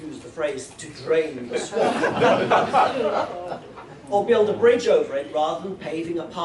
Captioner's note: laughter